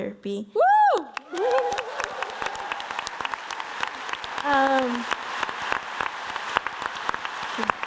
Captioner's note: audience applauds